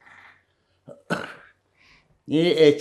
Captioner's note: coughing